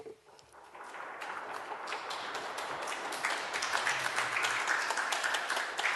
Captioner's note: applause